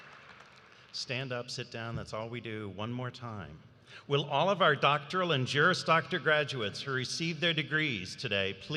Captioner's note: cheers and applause